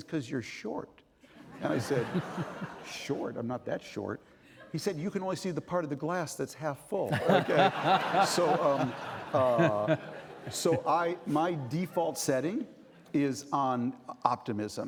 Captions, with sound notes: He said, "Because you're short." (Laughing) And I said, "Short? I'm not that short." He said, "You can only see the part of the glass that's half full." Okay. (Laughing) So, um, so, I-- my default setting is on optimism.